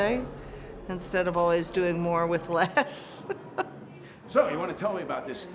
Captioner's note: laughs